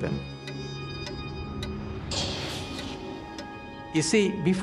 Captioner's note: <i> clocks ticking</i>